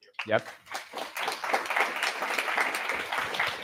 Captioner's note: applause